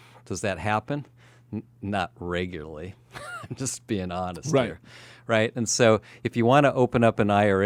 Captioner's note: laughs